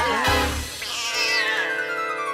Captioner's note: screeches; gasps